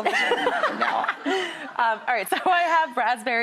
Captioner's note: Daphne giggling